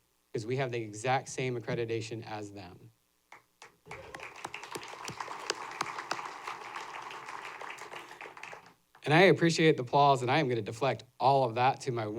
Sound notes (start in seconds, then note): 3.6 applause